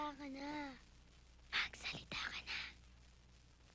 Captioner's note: whisphering